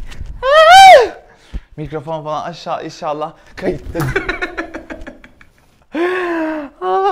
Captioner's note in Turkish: gülüşme